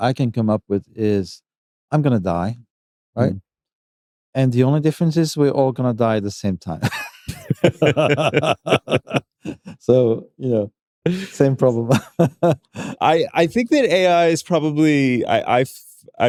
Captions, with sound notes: I can come up with is, I'm going to die, right? The only difference is, we're all going to die at the same time. [laughter] Same problem. [laughs] I think that AI is probably -